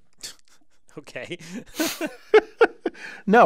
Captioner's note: laugh